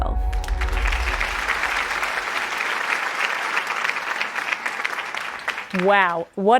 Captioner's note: applause